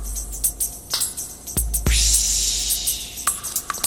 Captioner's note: none